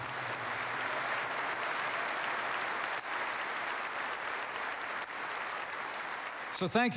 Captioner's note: applause